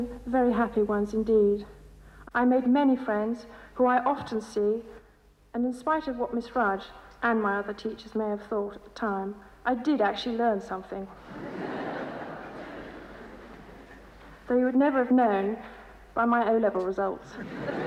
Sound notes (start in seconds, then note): 11.2 audience laughs